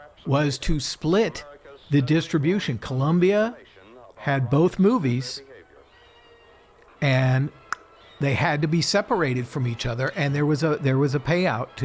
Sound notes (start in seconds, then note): 7.7 clocks tongue